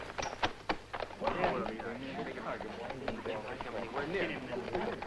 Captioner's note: angry murmuring